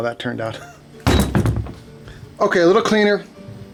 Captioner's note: clinking